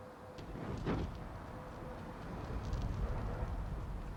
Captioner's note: flames billowing